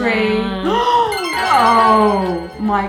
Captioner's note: gasps